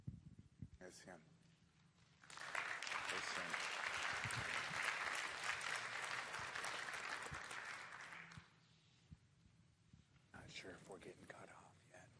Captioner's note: applause